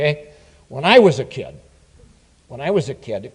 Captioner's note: none